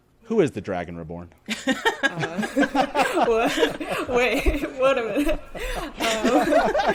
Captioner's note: all laughing